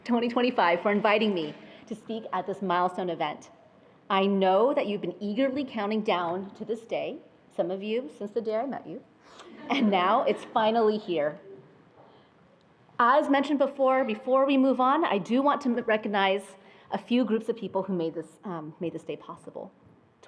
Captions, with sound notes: 2025 for inviting me to speak at this milestone event. I know that you've been eagerly counting down to this day, some of you since the day I met you, (attendees laughing) and now it's finally here. As mentioned before, before we move on, I do want to recognize a few groups of people who made this day possible.